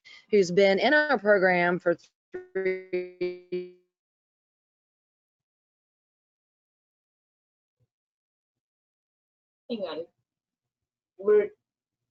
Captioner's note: sound loss